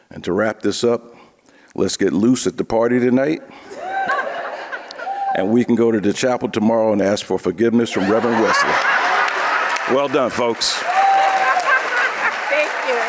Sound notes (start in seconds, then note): 4.9 audience cheering; 7.9 audience laughing